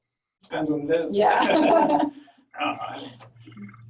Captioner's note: laughing